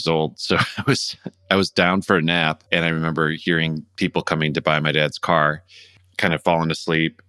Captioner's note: laughter